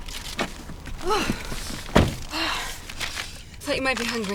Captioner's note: grunts